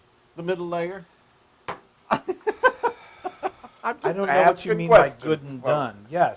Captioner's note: laugh